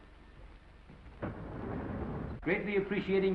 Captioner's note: door sliding